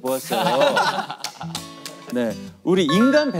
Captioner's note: laughing